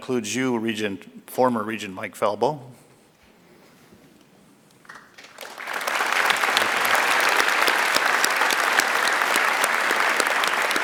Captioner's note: applause